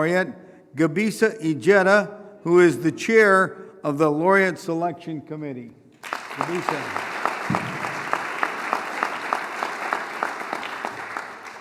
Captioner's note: applause